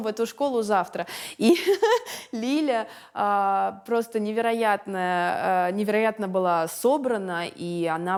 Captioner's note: laughs